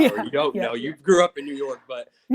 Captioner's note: laughs